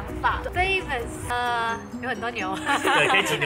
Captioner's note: laugh